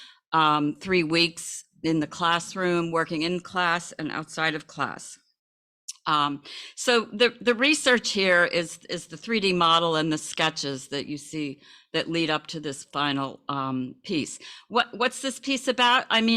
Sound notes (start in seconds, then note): none